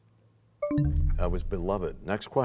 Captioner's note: bell chimes, time expires